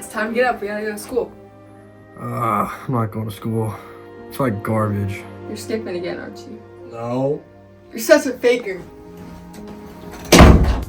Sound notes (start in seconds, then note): 2.2 groan